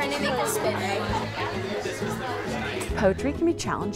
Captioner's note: students chattering